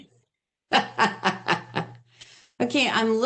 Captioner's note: laughs